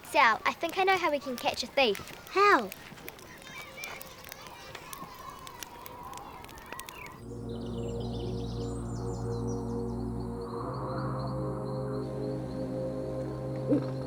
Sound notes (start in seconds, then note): 8.1 birds chirping; 10.1 calm mystical music